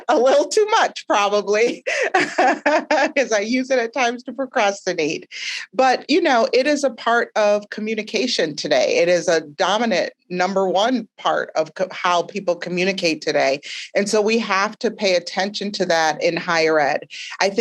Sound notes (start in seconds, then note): 0.0 laughing; 1.6 laughing